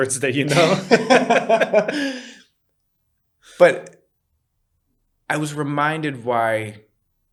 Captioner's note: laughter